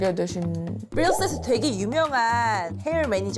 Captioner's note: sound effect of fame